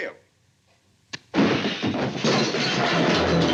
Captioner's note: crash